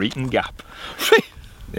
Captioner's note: laughs